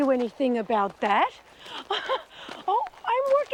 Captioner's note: laughs